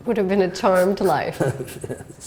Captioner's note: laughter